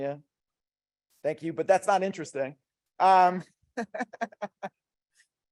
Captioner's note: laughs